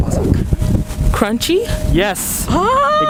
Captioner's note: crunchy